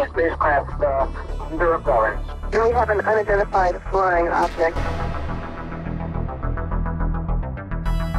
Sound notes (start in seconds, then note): 2.4 vrouw op radio spreekt